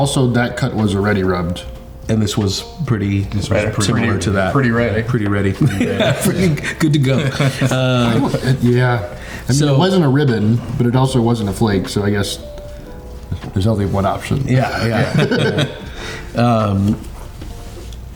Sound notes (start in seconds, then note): 5.5 laughing; 14.6 all laughing